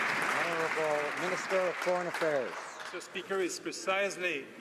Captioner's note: some Applause